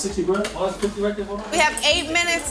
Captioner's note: group chattering